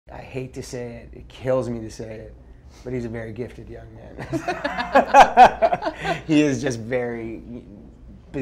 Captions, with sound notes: - I hate to say it, it kills me to say it, but he's a very gifted young man. [Laughing] He is just very...